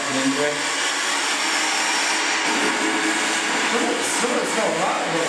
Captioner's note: racketing noise continues